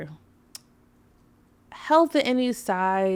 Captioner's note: tongue clicking